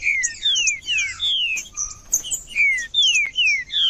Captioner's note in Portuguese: trinca ferro cantando